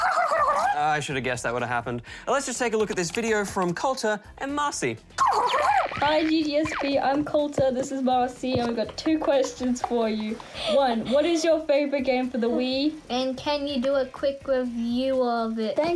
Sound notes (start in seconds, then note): 0.0 gobbles like turkey; 5.2 gobbles